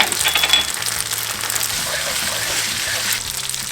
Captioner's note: sizzling